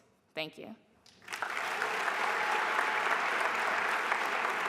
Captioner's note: applause